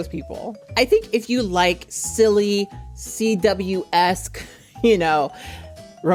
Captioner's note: chuckles